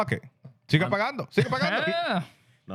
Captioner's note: speaking In Foreign Language